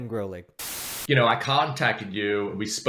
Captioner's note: static hissing